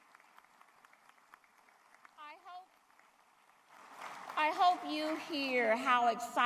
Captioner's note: applause